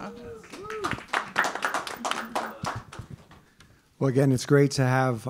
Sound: people clapping

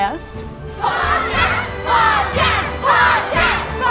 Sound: chanting "Podcast" repeatedly

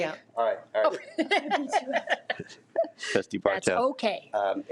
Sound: laughs

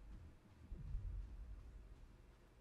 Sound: boom

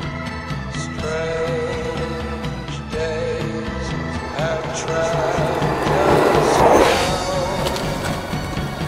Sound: skateboard races past

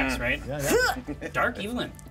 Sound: speaker laughs

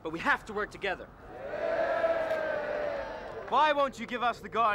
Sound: cheering

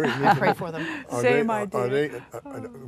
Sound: laughing

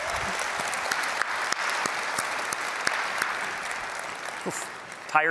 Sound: applause

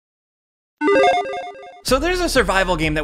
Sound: logo beeps

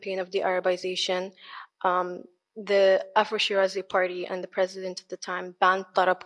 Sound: speaks foreign language

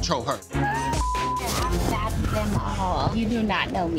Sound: beep

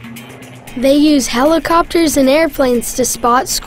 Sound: voiceover

